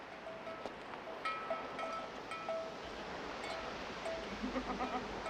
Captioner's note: ringing and bleating